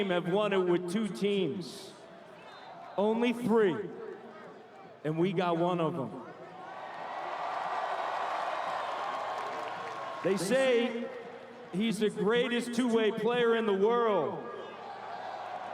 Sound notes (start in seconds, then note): 10.7 cheering and Applause